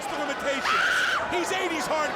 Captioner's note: Daffney screams